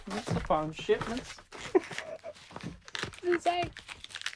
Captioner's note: laughs